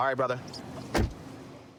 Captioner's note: door shuts